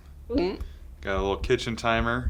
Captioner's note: throat gulping